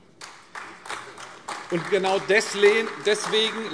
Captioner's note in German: Beifall AfD